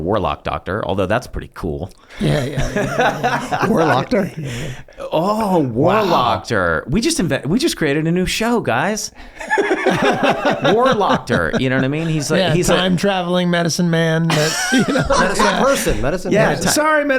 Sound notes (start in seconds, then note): 2.1 Charlie laughs; 9.2 all laugh; 14.2 all laugh